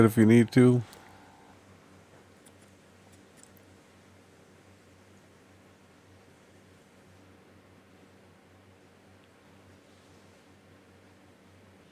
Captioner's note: silence